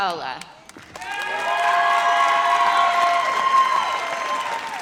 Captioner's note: audience cheers